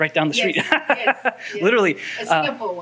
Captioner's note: laughs